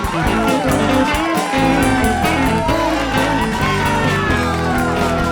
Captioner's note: crowd cheers